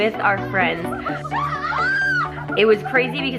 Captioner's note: screams